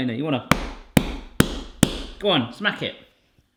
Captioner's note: loud smacks upon dough